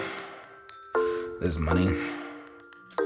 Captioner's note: sighs